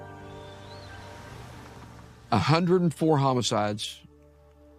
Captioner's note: birds chirping